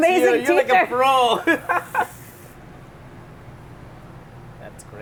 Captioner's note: laughs